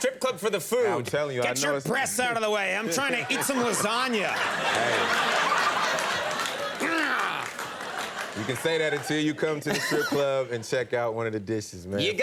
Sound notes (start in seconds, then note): 4.6 audience laughs; 7.0 grunts